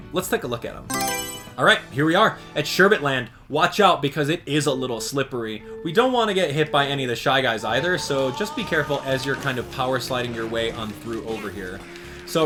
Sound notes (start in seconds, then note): 0.8 Mario Selection Sound